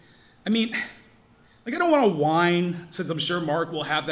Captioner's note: scoffs